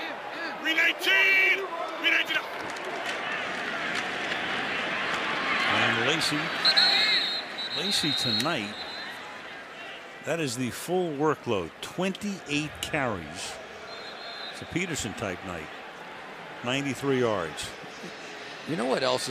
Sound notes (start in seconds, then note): 6.5 whistle blows; 13.8 whistle blows